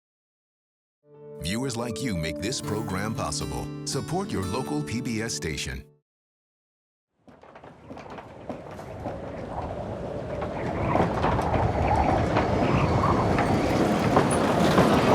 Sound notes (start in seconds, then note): 8.1 wind howling